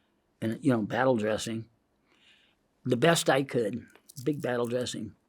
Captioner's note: inhales